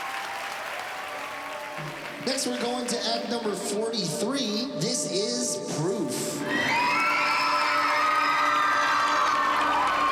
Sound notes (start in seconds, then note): 6.4 cheering and applause